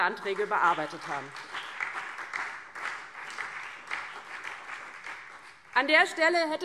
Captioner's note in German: Beifall DIE LINKE, SPD, vereinzelt CDU und BÜNDNIS 90/DIE GRÜNEN